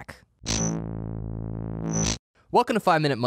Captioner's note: buzzing